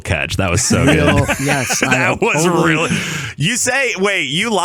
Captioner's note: laughing